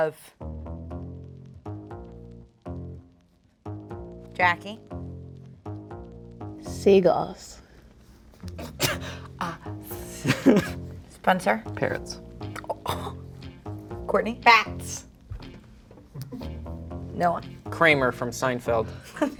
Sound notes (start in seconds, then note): 0.4 intense music; 5.4 intense music; 10.0 chuckling; 12.7 gasping; 16.3 intense music